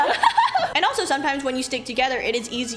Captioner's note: laughs